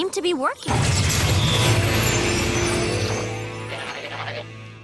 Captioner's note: zap